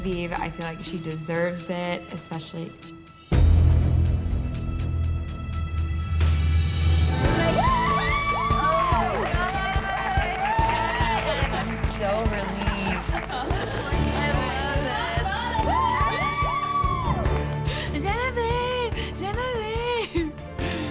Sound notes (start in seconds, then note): 7.4 cheers and applause; 15.7 cheers and applause